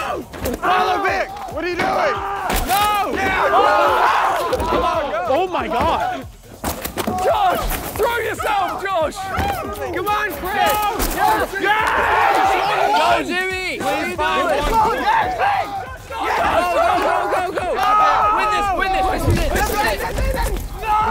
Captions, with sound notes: - Follow Vik. What are you doing? [contestants screaming] - No! [contestants screaming] - Oh my God. - Josh! Throw yourself, Josh. - Come on, Chris. [contestants screaming] - Yes! - Go, Jimmy. What are you doing? [contestants yelling] - Go, go, go, go, go. Win this. Win this. This is it. This is it.